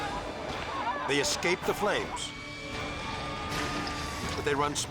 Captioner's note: sirens wailing